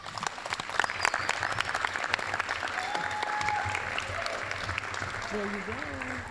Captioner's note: applause